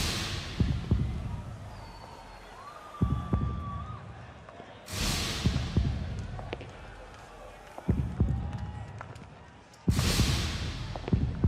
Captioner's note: crowd cheering